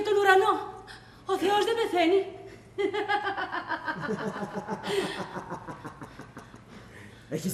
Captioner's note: γέλιο